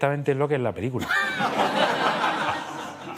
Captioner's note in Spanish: Risas